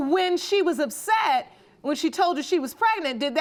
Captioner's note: none